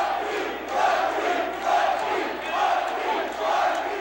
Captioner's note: crowd cheering